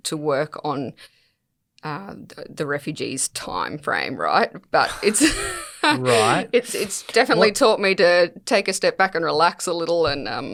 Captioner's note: laughs